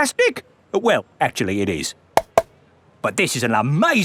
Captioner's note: taps